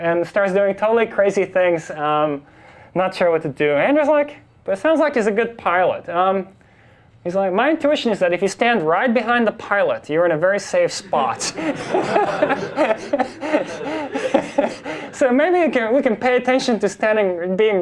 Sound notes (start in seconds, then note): 11.2 class and instructor laugh